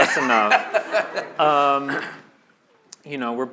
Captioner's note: laughter